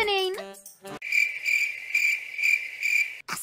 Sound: crickets

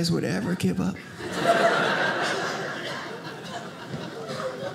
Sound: audience laughing

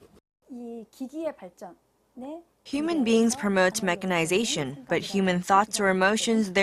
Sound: Korean

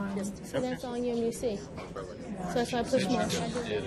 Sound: voiceover

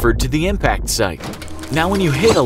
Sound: Fuzzy groaning in slow-mo SFX, eyes bulging SFX

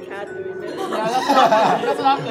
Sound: laughter

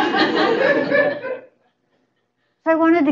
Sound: laughter

